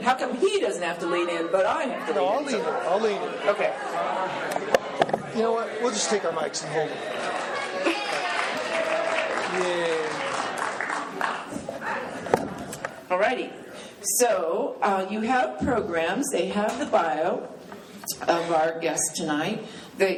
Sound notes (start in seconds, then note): 4.0 audience chatter; 7.8 clapping